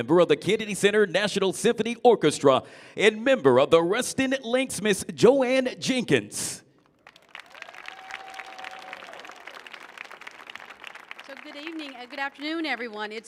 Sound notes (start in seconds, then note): 6.8 audience applauding; 7.2 audience cheering